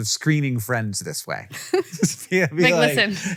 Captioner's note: Rachel and Hank laugh